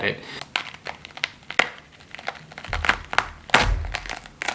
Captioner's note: fruit crunching